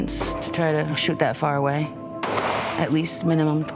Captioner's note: gun fires